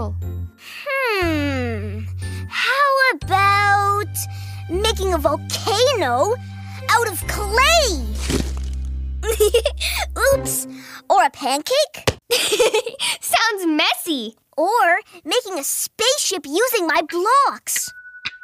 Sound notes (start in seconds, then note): 9.3 giggles; 12.7 laughs